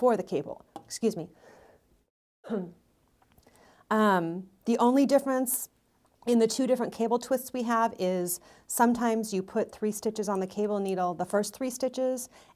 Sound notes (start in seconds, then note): 2.4 coughs